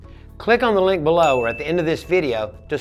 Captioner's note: bell rings